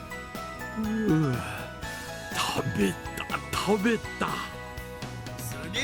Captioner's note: sigh